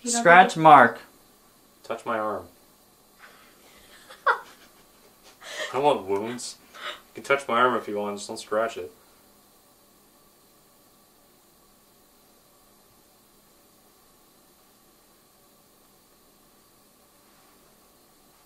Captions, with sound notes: - Scratch Mark. - Touch my arm. (girls laughing) I don't want wounds. You can touch my arm if you want, just don't scratch it.